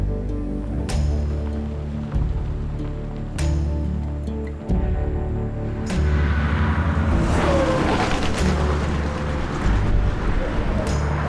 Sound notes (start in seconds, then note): 7.3 truck engine roaring